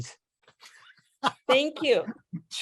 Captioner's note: laughter